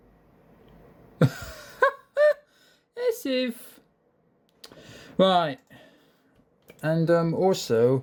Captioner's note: chuckles